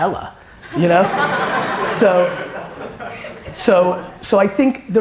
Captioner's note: audience laughter